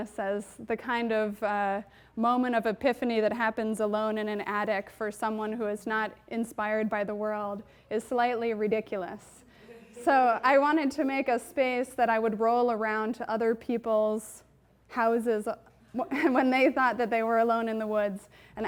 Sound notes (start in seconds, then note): 15.5 chuckles